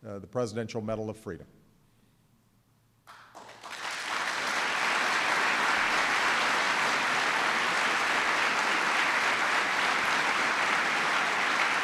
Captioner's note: applause